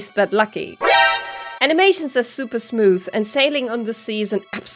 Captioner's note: sound of being spotted